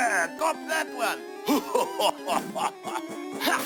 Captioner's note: laughs